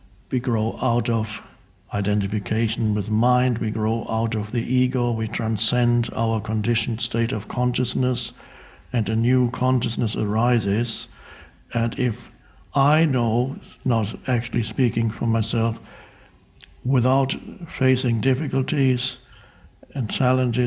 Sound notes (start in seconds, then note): none